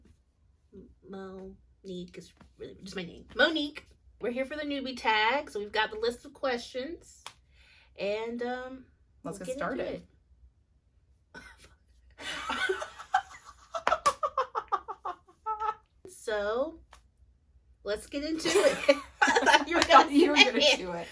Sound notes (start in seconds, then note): 12.2 laughter; 18.4 both laugh